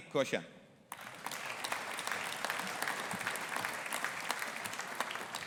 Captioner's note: audience applauding